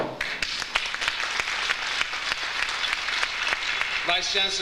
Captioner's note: audience applauds